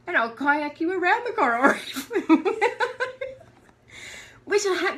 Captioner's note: laughter